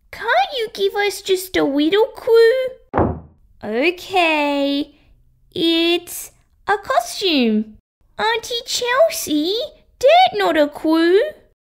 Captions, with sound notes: Can't you give us just a little clue (Slam!) Ok...! It's... a costume Auntie Chelsea! That not a clue